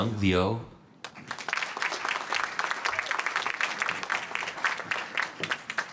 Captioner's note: applause